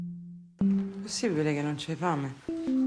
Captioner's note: in Italian